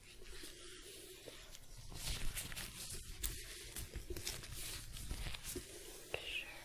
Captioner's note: glove sounds, stroking